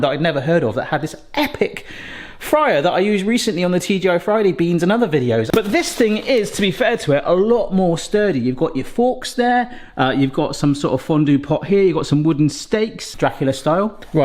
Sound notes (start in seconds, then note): none